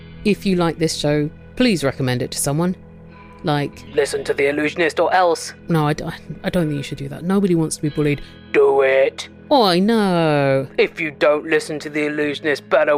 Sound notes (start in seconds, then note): 3.9 threatening voice